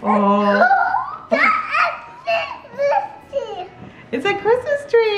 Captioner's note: speaking excitedly